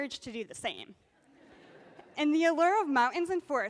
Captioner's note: laughter